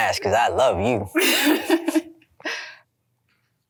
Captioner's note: laughs